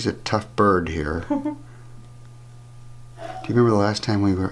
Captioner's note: laughs